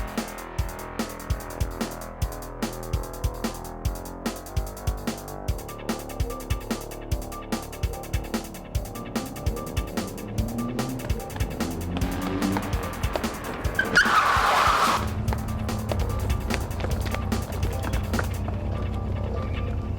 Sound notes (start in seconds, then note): 14.0 tires squealing; 16.9 upbeat rock music